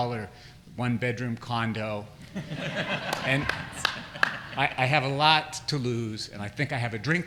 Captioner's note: laughter